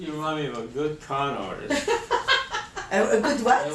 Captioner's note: laughs